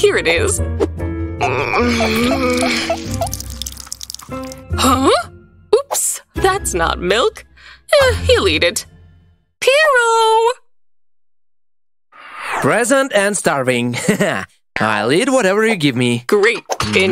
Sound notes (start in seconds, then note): 0.0 yawn; 1.4 scratching her eye and grunting